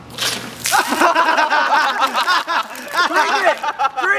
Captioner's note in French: Rires